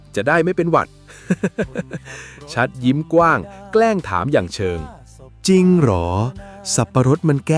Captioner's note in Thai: เสียงหัวเราะ